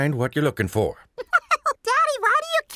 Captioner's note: laughs